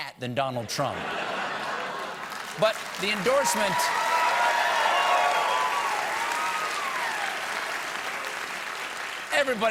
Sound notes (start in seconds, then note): 1.2 cheers; 2.4 applause